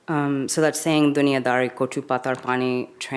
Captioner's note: speaks in a foreign language